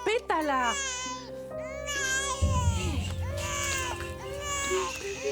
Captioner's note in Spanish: Llanto de la bebita